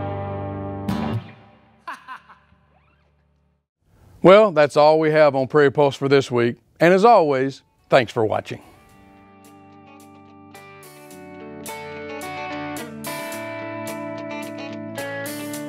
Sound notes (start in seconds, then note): 1.8 laughs; 9.0 bouncy rock music